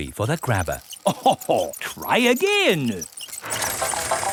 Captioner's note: chuckles